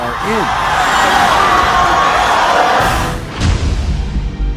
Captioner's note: audience cheering